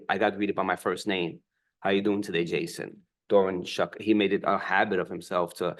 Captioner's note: none